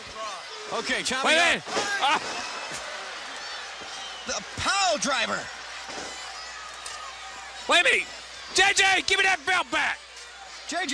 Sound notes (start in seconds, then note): 1.6 crowd chatter